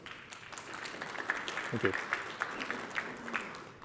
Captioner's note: applause